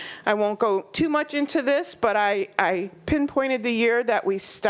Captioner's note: none